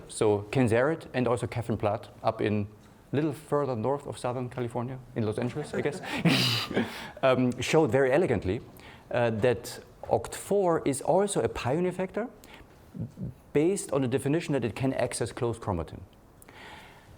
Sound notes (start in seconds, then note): 5.4 laughing